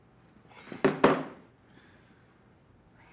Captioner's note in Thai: เสียงวางรีโมททีวี